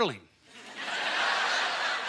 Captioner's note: audience laughter